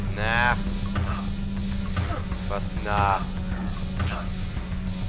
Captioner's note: Poctor Punch noises